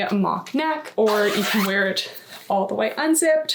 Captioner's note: zipper unzipping